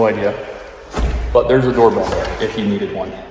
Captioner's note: door thuds